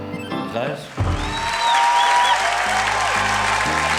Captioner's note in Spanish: aplausos